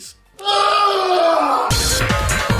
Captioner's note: guy Screaming Epicly